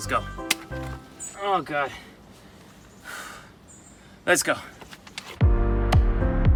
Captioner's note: exhales sharply; mellow music